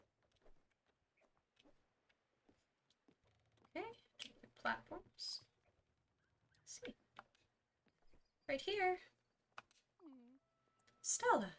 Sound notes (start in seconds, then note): 8.4 light voice